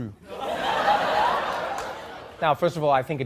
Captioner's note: audience laughing